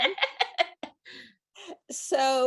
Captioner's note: laughs